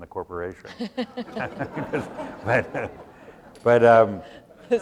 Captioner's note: laughter